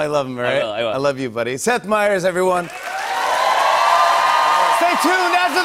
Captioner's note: cheers and applause